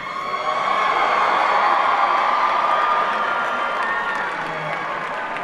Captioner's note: cheers and applause